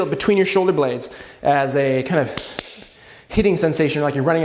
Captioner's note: punches hand